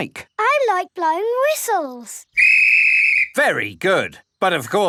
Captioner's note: blows whistle